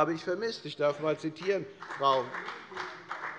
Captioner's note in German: Beifall bei der FDP